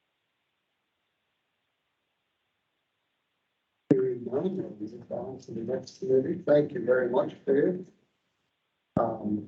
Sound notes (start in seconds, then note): 3.9 indistinct chatter